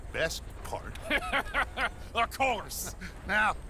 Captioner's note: laughs